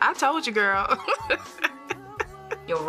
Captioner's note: laugh